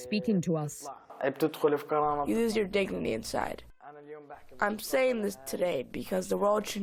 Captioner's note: through translator